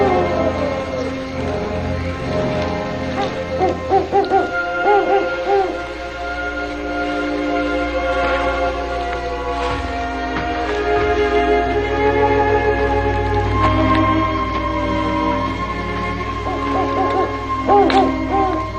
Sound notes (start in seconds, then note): 3.0 owl hooting